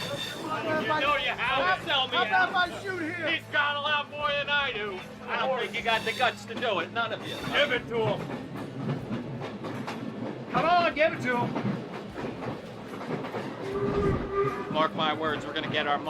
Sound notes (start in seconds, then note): 0.0 train whistles; 8.9 clacking; 13.4 train whistles